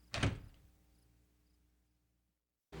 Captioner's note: door quietly shuts